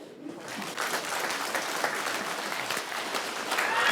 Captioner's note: audience clapping